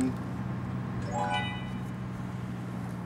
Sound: chiming

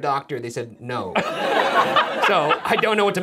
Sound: audience laughs

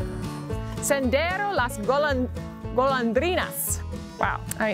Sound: upbeat music; speaking foreign language

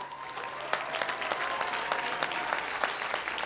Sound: applause

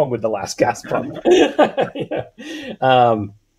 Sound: laughs

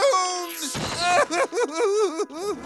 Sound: crying

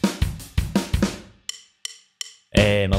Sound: deep voice

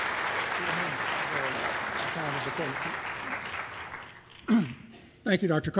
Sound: applause

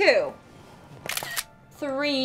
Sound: camera shutter snaps

